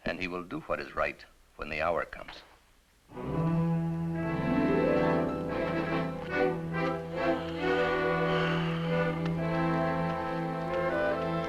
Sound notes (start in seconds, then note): 7.2 sighs